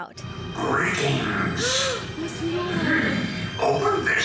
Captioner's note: gasps